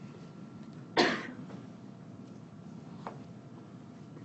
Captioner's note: person coughs